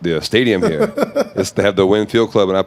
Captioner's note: laughing